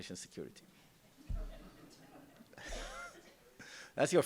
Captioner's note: laughter